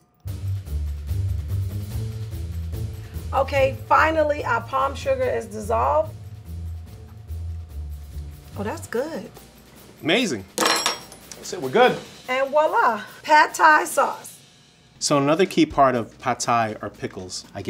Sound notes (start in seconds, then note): 0.3 upbeat music; 10.5 utensil clatters